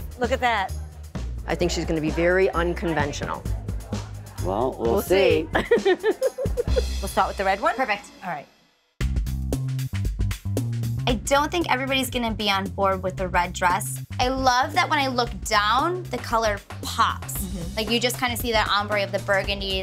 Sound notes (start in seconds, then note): 5.5 laughs; 8.7 upbeat music